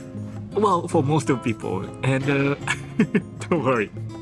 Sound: chuckles

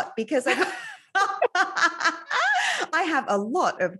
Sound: both laughing

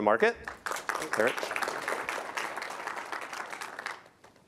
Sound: applause

